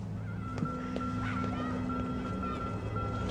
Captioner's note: children chattering